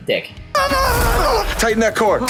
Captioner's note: teen yells